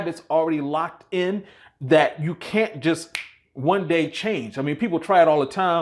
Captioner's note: snaps